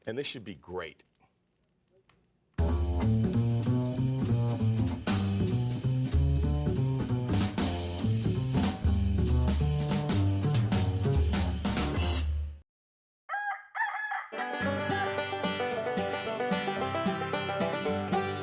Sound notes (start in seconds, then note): 13.2 rooster crows; 14.3 banjo plays